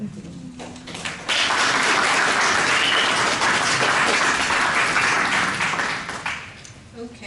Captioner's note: applause